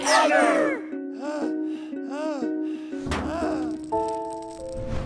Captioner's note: heavy breathing